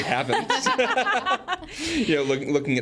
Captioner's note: group laughs